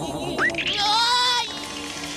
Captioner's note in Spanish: grita asustado